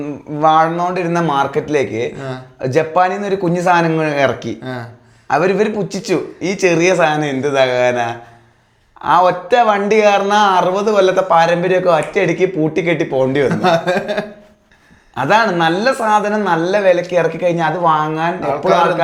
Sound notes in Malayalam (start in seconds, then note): 13.4 പൊട്ടിച്ചിരി